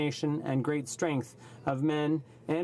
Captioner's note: speaking French